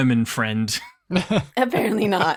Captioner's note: laughs